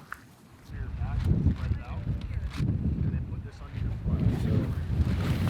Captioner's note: talking in background